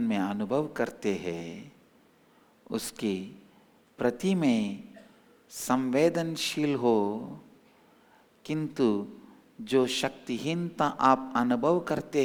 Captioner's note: hindi